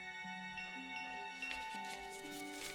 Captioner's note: doorbell